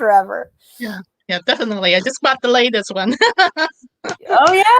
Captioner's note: laughs